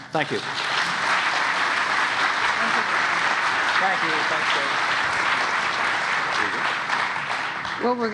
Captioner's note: applause